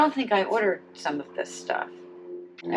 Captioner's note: plane flying overhead